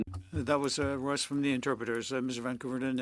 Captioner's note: speaking French